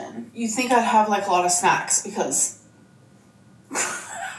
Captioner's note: chuckles